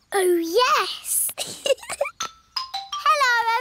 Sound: giggles

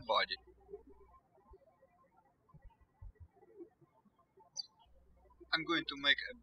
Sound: birds chirping

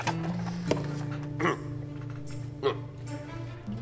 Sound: clears throat

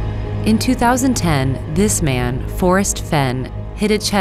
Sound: voiceover

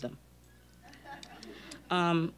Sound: scattered chuckling

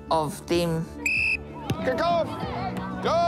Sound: whistle blows

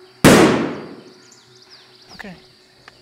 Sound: gunshot firing

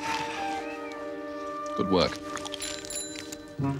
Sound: bicycle bell

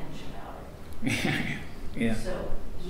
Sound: laughs

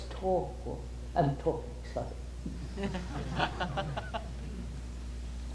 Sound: laughter

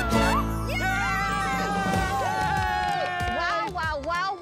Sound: all cheering

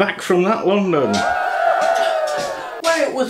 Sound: cheering

